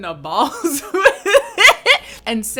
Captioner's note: laughs